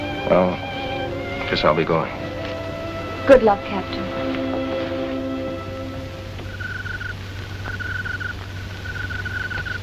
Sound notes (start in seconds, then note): 6.7 crickets chirping